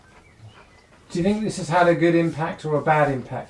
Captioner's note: voiceover